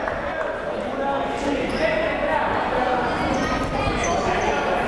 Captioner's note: crowd murmuring